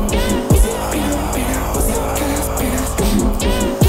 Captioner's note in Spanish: Mh, mh